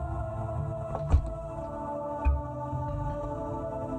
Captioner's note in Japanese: 扉の開閉音：バタン